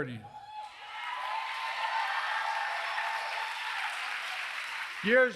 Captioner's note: applause